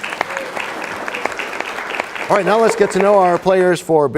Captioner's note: applause